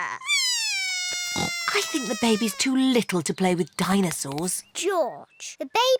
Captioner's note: bawls